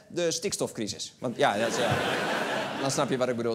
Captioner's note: laughter